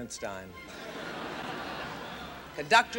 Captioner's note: audience laughing